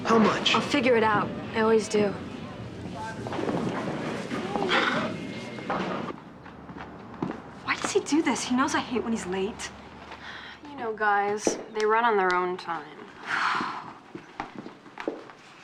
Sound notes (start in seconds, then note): 4.5 sighs; 13.2 sighs